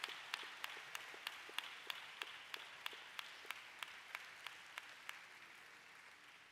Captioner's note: applause